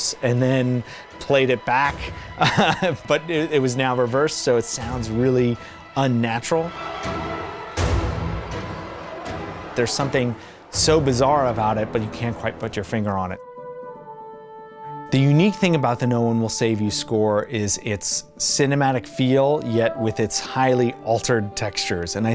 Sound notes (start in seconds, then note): 2.3 laughs; 7.0 eerie strings